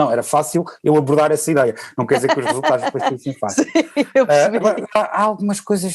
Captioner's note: laughs